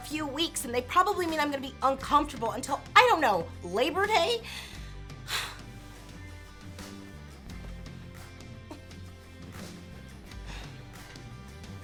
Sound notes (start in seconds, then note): 5.2 sighs